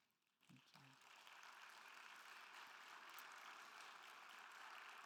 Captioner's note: attendees applauding